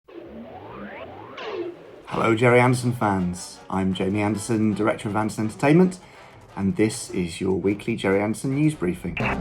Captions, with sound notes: (laser sounds) - Hello Gerry Anderson fans. I'm Jamie Anderson, Director of Anderson Entertainment, and this is your weekly Gerry Anderson news briefing.